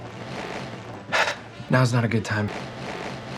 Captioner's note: breaths weird